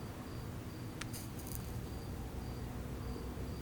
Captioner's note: match fizzling